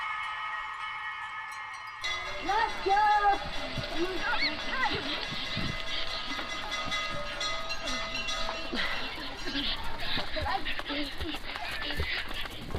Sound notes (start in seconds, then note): 7.0 children panting